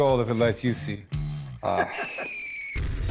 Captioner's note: laughs